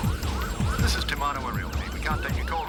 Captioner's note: siren wailing; recorded Message